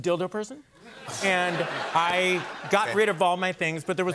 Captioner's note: laughter